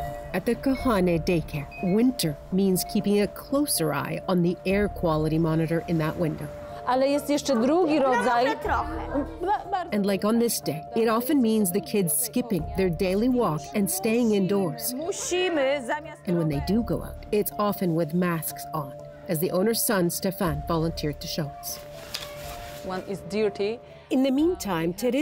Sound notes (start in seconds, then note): 12.1 speaking russian